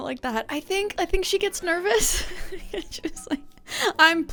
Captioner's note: laughs